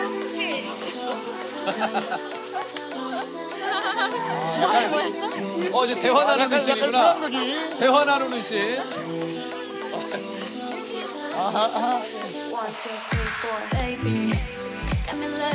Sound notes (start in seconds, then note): 11.1 they chat